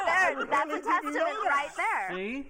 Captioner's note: laughter